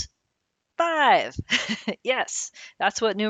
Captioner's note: laughing